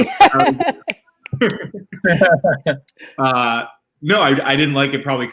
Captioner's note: all laughing